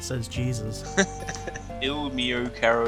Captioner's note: laughs